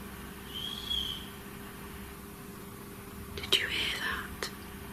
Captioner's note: whistling